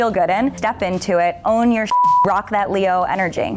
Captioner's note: beep